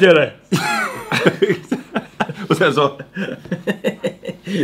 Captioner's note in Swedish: skratt